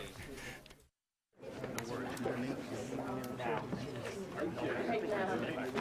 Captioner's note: people chattering